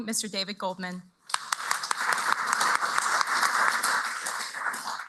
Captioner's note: applause